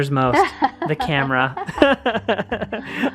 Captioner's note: laughs